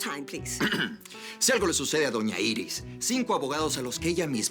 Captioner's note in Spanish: Él carraspea